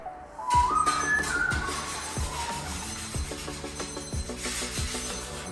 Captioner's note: beeping